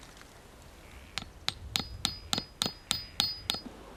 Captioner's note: tapping